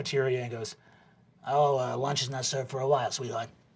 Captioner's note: new York smoker lady voice